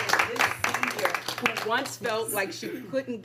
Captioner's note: applause